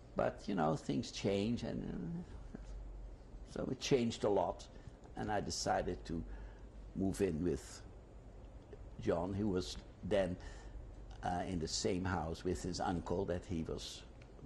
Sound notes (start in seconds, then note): none